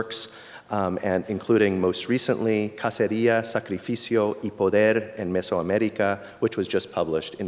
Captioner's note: speaking spanish